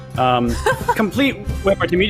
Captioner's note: laughs